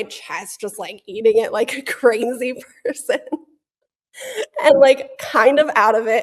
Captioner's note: laughs